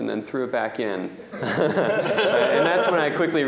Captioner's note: laughter